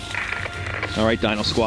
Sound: static crackles

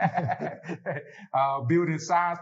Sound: laughter

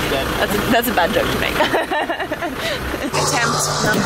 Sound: laughing

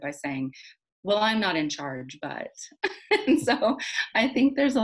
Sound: laughs

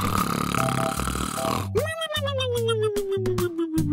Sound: snoring

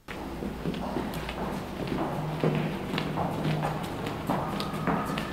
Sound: footsteps tapping

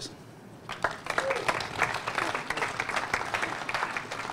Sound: applause

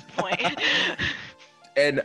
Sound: laugh

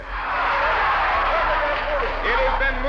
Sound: crowd cheering

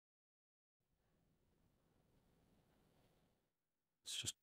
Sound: silence

